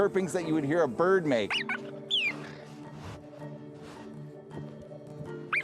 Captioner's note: cheetah chirping